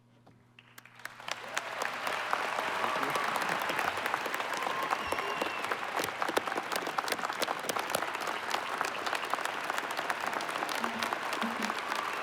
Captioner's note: applause